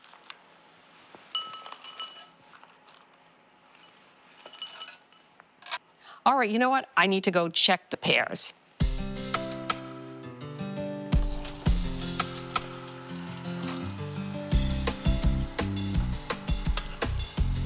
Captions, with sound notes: (brittle clinking) All right, you know what, I need to go check the pears. (peaceful music)